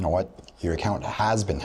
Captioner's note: none